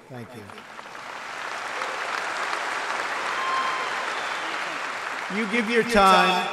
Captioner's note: applause